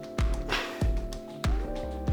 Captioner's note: laugh